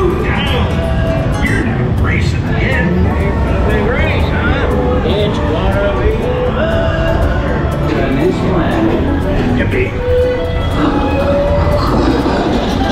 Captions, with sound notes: - Slow down, you're racing ahead. - Looking great son. It's gonna be bumpy! (upbeat music) Come on! (cars bleeping)